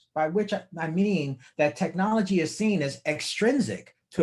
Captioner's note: none